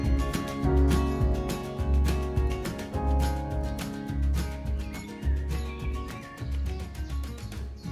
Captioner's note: nature sounds, birds singing